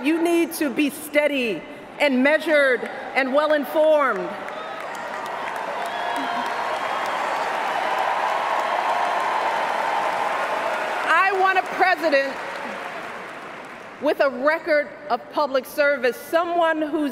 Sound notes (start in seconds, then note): 4.1 cheers, applause